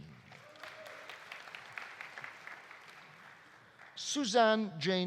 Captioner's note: audience applauding; audience cheering